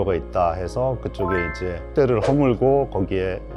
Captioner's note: emphasizing sound effect